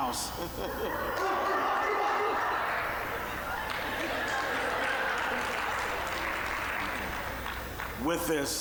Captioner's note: applause